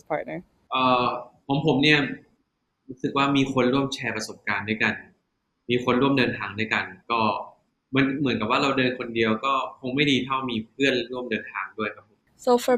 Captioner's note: answering in Thai